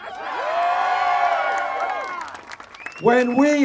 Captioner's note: applause